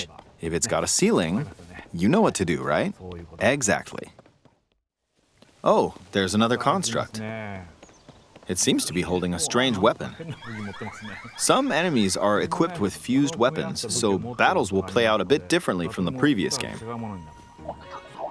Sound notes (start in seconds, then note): 10.3 Construct warning sounds